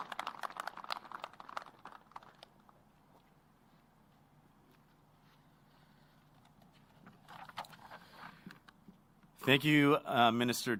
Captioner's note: applause